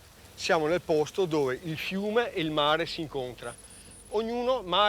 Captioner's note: speaking in foreign language